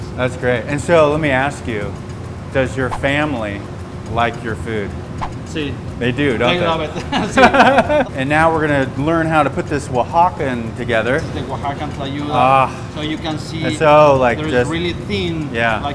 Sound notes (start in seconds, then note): 6.4 laughing